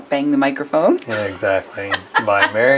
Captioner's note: laughs